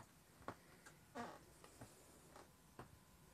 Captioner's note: floor board creaks